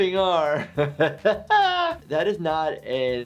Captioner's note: aughing